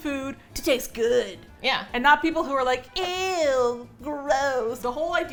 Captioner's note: with disgust